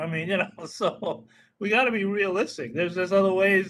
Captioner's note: laughing